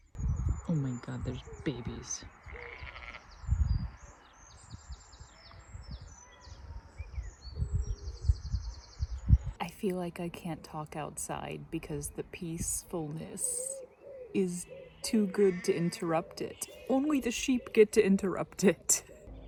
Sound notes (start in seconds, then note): 2.3 quiet nature sounds and bleating; 15.4 bleating